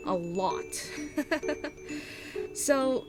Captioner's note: giggles